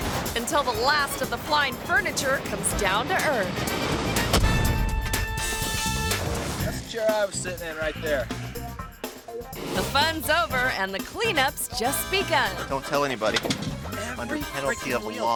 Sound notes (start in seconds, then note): 4.2 couch thuds; 4.2 upbeat music continues